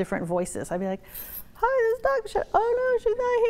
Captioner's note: high-pitched voice